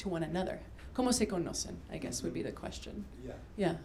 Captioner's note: spanish